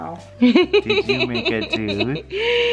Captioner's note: chuckling